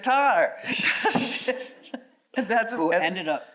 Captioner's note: chuckles